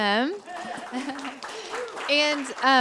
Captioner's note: cheers, applause